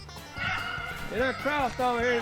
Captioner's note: dogs barking